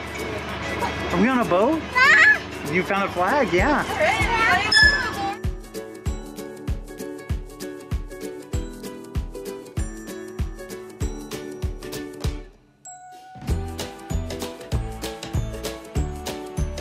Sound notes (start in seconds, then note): 2.6 speaking gibberish; 6.0 gentle music